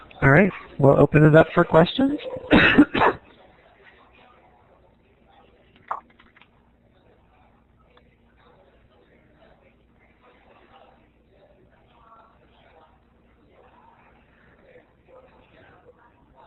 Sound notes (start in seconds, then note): 4.1 silence